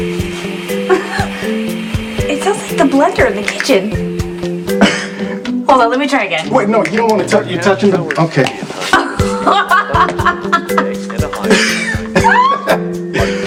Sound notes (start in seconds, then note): 1.6 chuckles; 8.8 both laugh